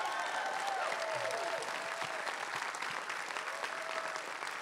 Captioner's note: crowd cheering and applauding